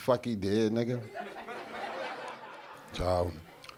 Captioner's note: audience laughing